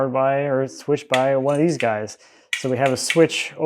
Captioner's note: switch clicking